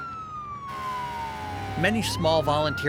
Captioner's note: siren blaring